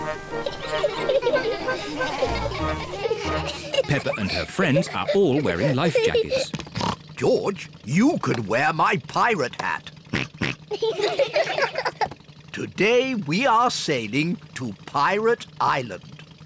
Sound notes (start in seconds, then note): 0.2 all giggling; 6.7 oinks; 10.1 oinks; 10.3 all laugh